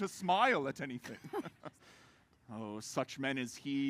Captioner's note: laughs